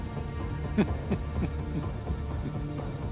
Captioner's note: dramatic music; Talbott laughing; dramatic music